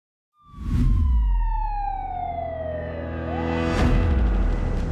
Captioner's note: siren wailing